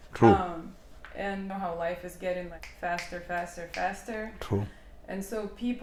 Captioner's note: snap fingers